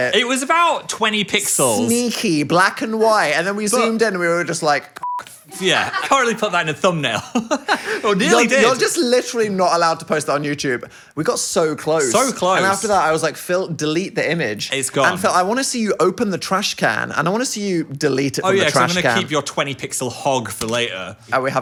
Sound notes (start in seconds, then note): 5.0 beep; 7.1 chuckles